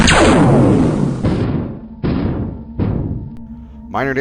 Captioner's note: zap; boom